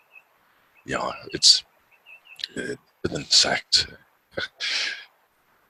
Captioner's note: chuckles